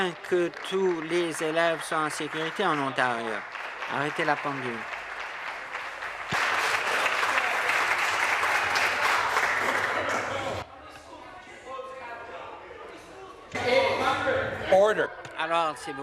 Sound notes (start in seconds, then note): 4.3 applause; 15.7 conversation din